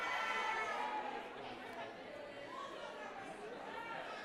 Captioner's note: crowd talking